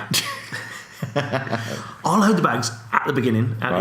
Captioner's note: laughs